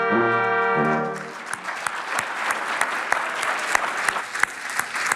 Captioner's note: audience applauding